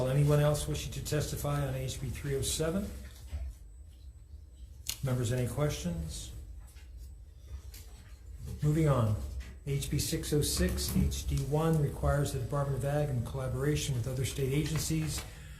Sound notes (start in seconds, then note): none